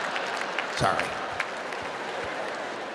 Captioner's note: audience laughs